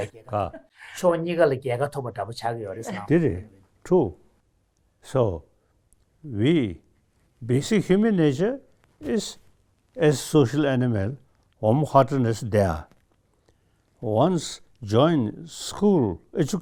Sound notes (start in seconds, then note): 2.4 speaks in Tibetan